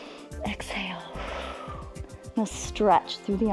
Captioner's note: exhales; inhales